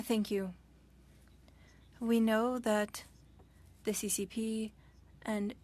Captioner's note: speaking French